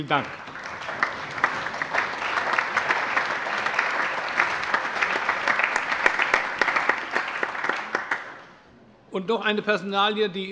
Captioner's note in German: Allgemeiner Beifall